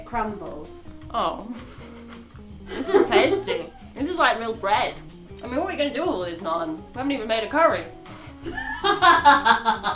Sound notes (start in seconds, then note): 8.1 both laugh